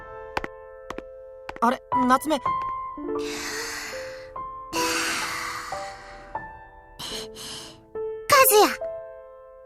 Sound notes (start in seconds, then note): 3.1 inhale; 4.8 exhale; 6.9 bated breath